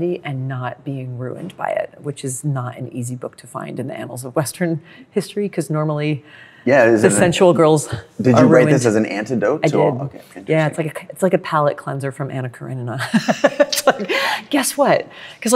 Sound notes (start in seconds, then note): 13.1 laughs